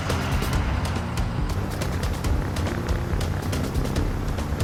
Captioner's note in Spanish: Ruido de la avioneta